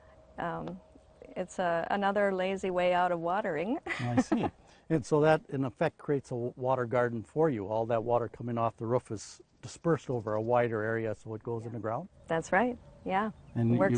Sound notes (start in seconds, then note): 3.9 laughing